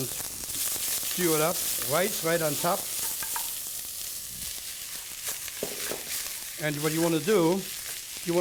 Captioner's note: sizzling